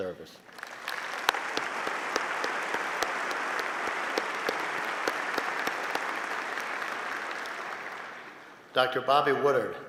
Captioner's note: applause